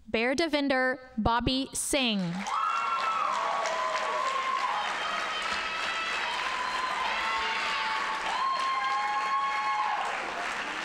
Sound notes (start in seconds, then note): 2.4 audience cheering and applauding